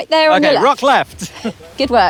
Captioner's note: chuckles